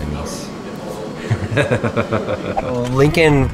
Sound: laughing

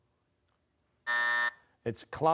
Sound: buzzer

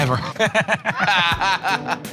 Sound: laughter

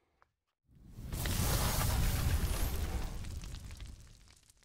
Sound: flames hiss

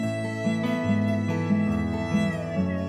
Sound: none

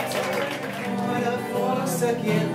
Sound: cheering

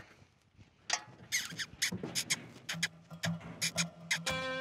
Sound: calling

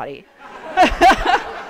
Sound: laughs

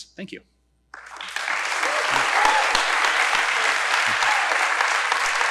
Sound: audience applauding

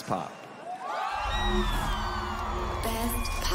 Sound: cheering

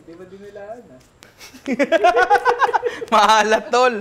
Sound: laughter

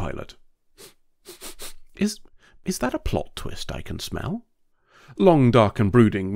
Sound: sniff

